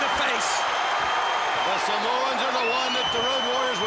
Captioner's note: crowd cheering